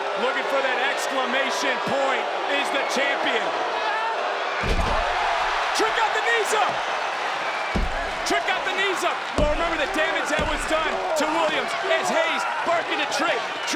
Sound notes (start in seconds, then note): 7.3 crowd cheers